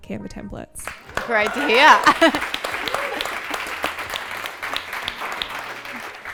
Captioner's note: audience clapping